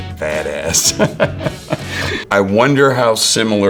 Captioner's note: Jeffrey laughs